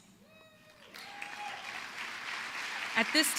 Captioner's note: applause